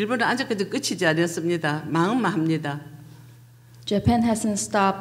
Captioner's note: speaking foreign language